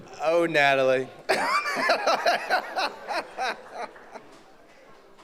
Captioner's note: laughs